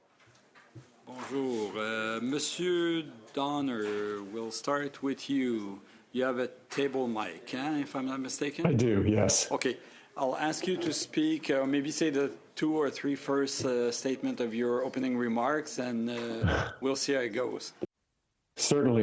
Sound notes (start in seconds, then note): 3.0 speaking French